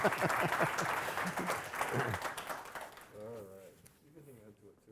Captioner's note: audience applauding